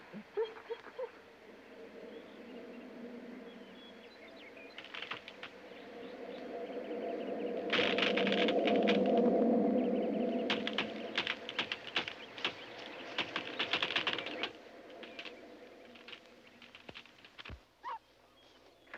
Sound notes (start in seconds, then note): 1.2 wind whistling; 5.2 tree creaking